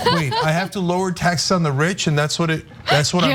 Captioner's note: laugh